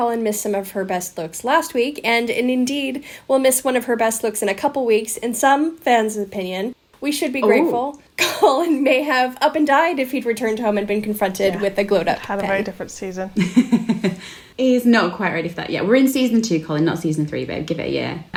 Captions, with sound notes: Colin missed some of her best looks last week, and indeed, will miss one of her best looks in a couple weeks, in some fans' opinion -- - We should be grateful. - Oh. - Colin may have up and died if he'd returned home and been confronted with a glowed-up Pen. - Had a very different season. (laughing) - He's not quite ready for that yet. We're in season two, Colin, not season three, but I'd give it a year.